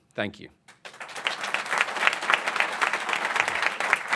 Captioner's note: applause